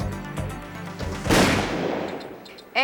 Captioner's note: gunshot